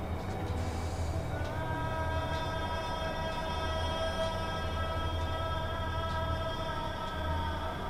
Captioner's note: sounds of desert winds and ambience of emptiness